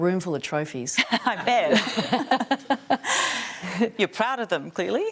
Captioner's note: laughs